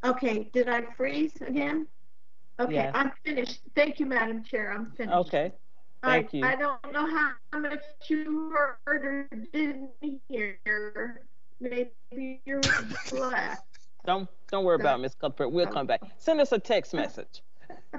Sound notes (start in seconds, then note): 12.9 voice distorted